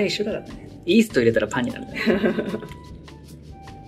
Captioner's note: laughs